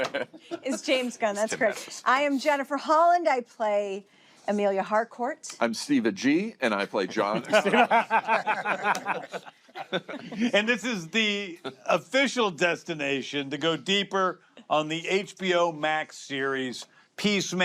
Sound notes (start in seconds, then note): 6.9 all laugh